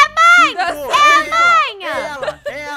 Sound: laughing

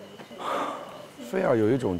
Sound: sigh

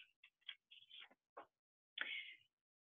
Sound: paper rustling

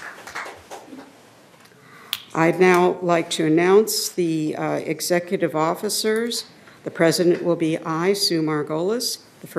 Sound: applause

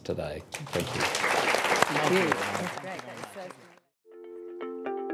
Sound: applause

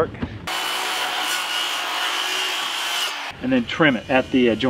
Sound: sawing noises

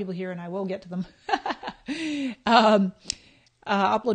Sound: laughing

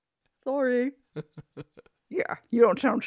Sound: giggles

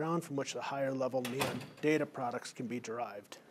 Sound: door slams

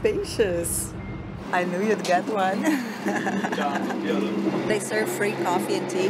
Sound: laughs

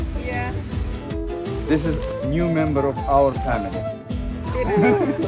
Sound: laughter

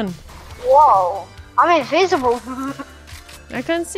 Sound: laughs

